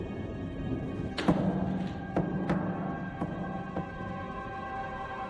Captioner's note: weights slam heavily